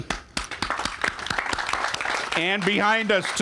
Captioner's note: panel clapping